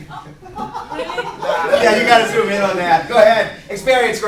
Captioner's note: laughter